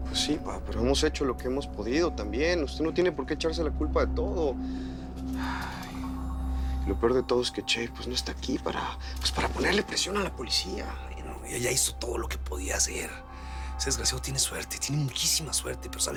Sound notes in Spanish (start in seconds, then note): 5.5 Suspiros